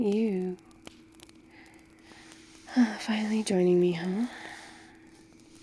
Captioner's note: sighs